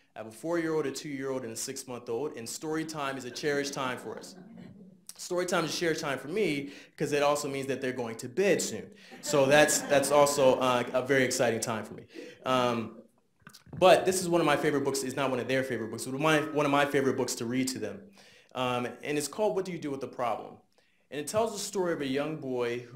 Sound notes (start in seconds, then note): 3.1 audience laughs lightly; 9.1 audience laughs